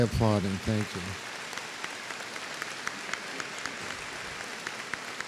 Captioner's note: applause